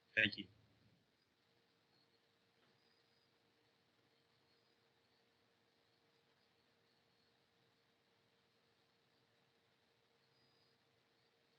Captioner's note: pause